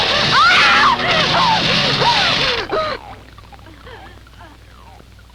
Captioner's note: electrical fizzling; bubbling